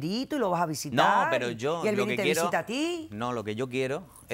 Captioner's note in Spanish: Hablan al unísono